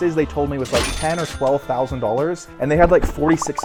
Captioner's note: cash register dings